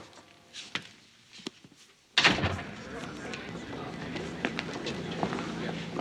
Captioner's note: none